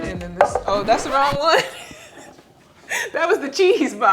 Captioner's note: laughs